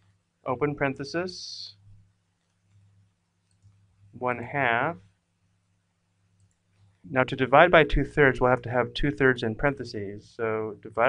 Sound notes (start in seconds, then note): 4.4 pause